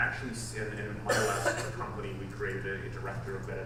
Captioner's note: audience member coughs